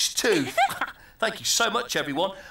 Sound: Tula laughs

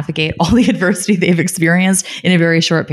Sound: laughing

